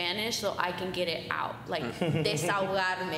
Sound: giggling

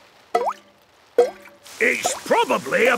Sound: water dripping

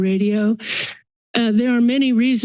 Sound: inhales

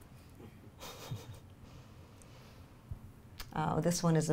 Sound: laughs

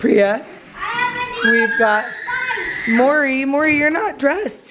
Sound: child screaming

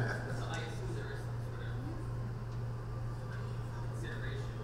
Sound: panel laughs; off-mike talking

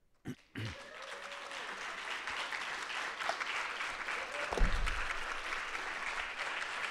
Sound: audience applauding; audience cheering

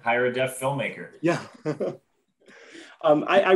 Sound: laughter

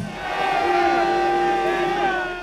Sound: team shouting

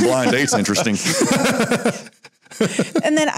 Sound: laughter

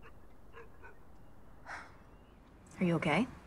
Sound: sighs

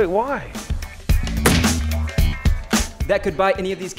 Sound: thud

